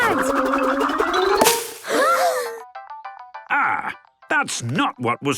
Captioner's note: all gasping